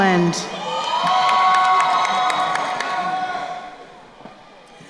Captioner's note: crowd cheering